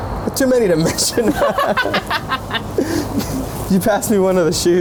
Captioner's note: both laughing